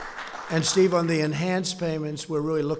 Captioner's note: applause